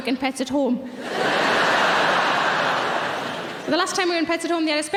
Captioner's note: audience laughing